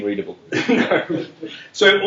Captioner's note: laughter